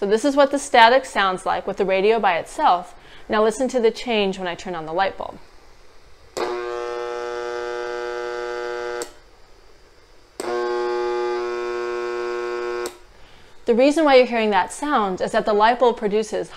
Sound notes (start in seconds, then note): 10.9 lots of static